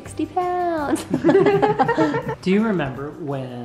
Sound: laughing

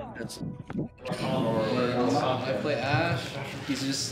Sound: tired chatter

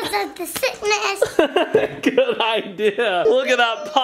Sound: laughs

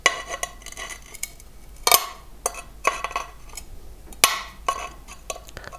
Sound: grinding and crackling

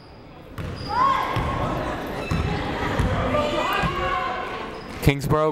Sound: people shouting in the crowd

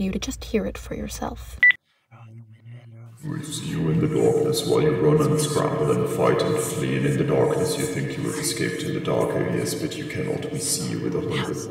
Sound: an unnaturally deep, distorted, echoing voice; electronic beep

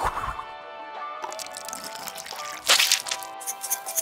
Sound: bottle spritzing; water pouring; bottle squirting; bottle shaking

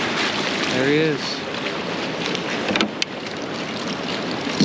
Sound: fish splashing

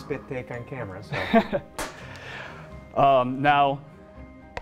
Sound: laughs

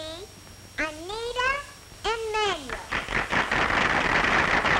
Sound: applause

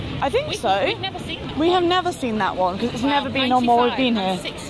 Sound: none

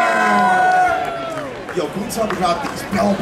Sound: audience cheering

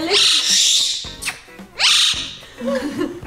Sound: loud chirping; lips smacking; laughs

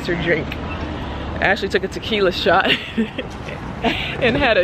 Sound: laughs

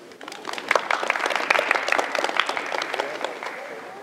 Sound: applause

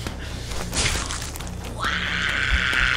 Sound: bones and flesh breaking; frightend screaming; heart beating

